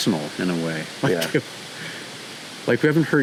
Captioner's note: chuckling